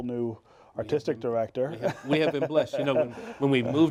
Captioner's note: laughs